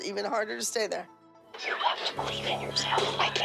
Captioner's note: whispers